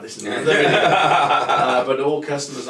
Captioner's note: laugh lightly